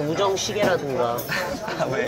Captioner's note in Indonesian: Haha